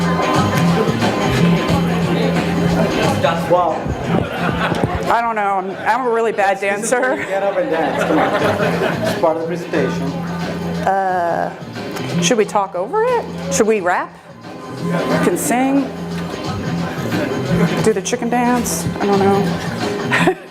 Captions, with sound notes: (audience laughs) - I don't know, I'm a really bad dancer. - Some of you get up and dance, come on. It's part of the presentation. - Should we talk over it, should we rap? We can sing, do the chicken dance, I don't know (chuckles).